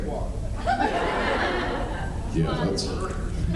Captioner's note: laughs